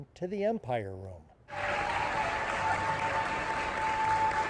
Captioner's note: staff cheering